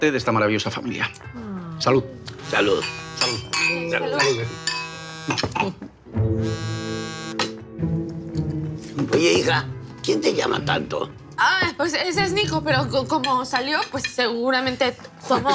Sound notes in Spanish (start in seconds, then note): 0.8 Continúa vibrando un celular